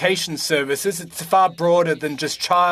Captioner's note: speaking French